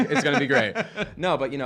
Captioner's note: laughing